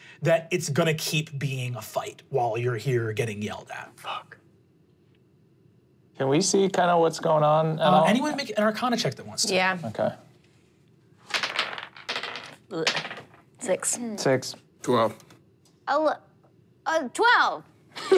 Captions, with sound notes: that it's gonna keep being a fight while you're here getting yelled at. - Fuck. - Can we see kind of what's going on? - Anyone make an arcana check that wants to. - Yeah. - Okay. (dice rolling) - Six. - Six. - 12. - Oh look, a 12!